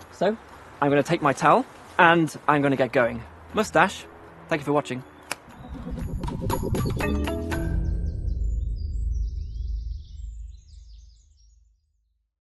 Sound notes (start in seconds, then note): 5.6 teleporting sound; 7.3 birdsong